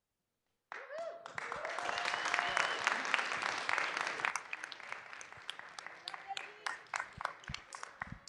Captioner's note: clapping and cheering